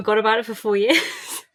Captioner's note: laughs